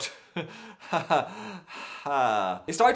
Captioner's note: laughs regretting life